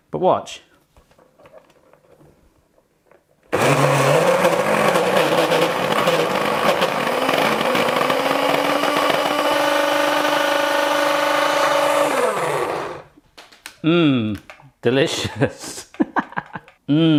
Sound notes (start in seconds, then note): 3.7 loud grinding; 15.5 laughing